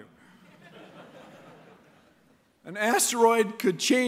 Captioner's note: laughter